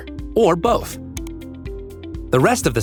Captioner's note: mouse clicking